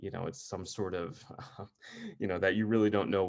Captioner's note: chuckles